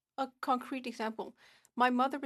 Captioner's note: speaking French